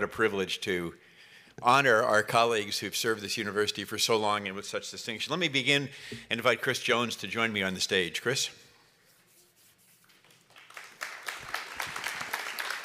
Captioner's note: applause